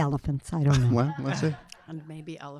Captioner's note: audience laughing